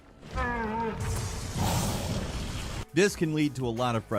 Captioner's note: Trico whines